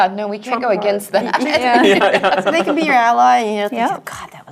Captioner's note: laugh